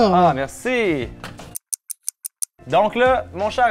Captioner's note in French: tic-tac